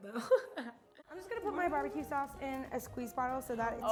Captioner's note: laughing